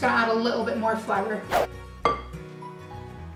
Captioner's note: woosh